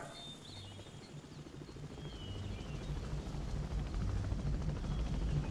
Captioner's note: helicopter Whirring